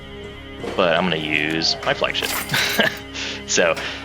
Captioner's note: laughs